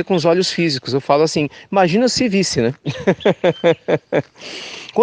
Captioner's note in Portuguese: risos